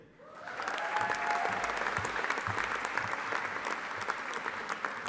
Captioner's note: audience applauding